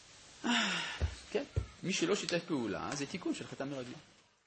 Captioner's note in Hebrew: נאנח